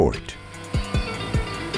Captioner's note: grinding sound